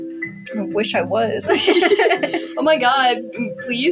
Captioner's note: both Laugh